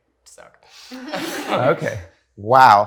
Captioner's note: audience laughs